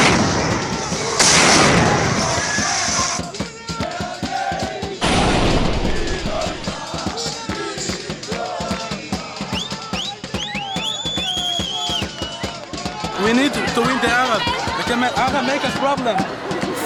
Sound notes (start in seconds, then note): 0.0 sound of explosions; 3.2 celebratory cheering and singing; 5.0 sound of explosions; 6.9 celebratory cheering and singing